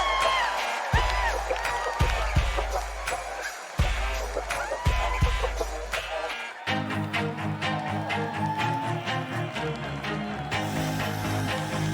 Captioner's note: cheers and applause